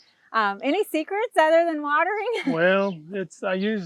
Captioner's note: laughs